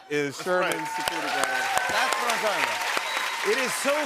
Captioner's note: cheers and applause